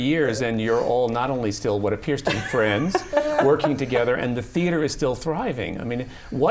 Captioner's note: laughter